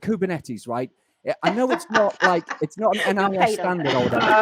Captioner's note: laughs